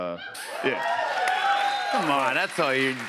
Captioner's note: cheers and applause